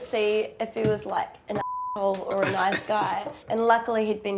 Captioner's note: laughs